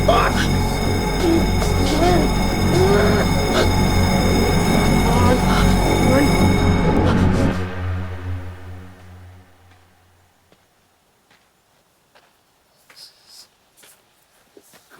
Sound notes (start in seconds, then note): 2.6 Ava whimpers; 10.4 approaching footsteps shuffling